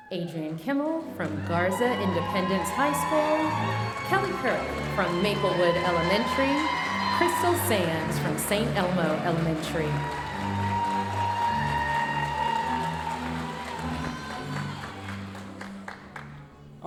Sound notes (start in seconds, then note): 10.2 audience cheering and applauding